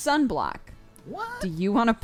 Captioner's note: cry